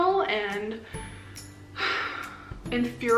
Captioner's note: sigh